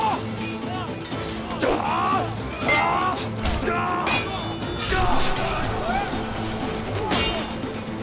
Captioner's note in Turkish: Dövüş sesleri